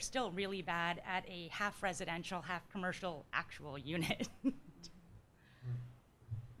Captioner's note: laughs